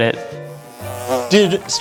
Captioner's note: bee buzzing